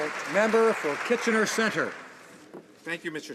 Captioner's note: applause